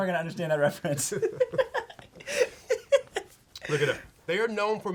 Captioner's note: laughs